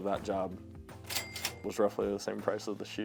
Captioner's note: cash register ringing